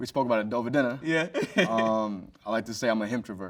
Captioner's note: chuckles